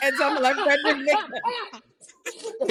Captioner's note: laughing